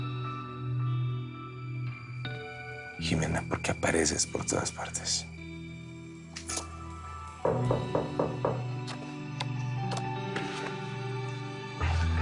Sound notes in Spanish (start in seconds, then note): 7.4 Toques en la puerta